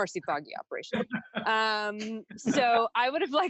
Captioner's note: everyone laughs